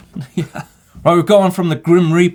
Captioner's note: laughs